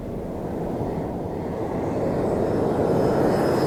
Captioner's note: plane engine roaring